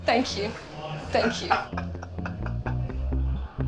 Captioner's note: laughs